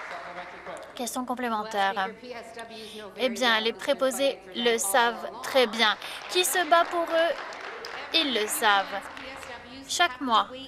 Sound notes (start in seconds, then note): 5.5 some Applause